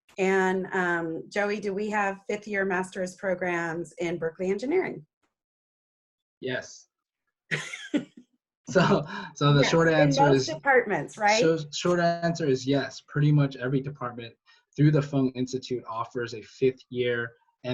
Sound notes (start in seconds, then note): 7.5 laughs